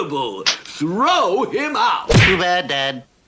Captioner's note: splat!